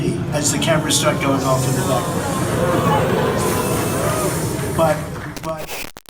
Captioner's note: hissing & booing